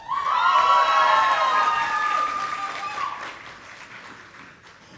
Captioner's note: audience applauding